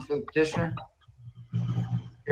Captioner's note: ~audio distortion~